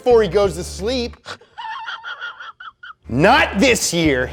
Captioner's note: throaty laugh